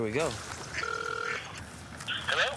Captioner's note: phone Ringing